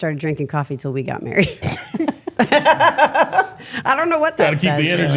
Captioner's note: laughs